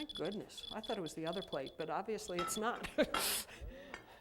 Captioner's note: laughs